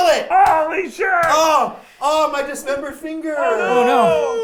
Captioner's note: exclaiming